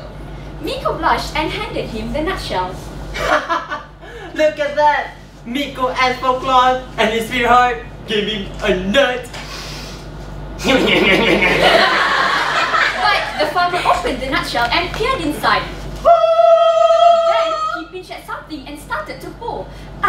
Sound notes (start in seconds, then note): 10.6 laughs retardedly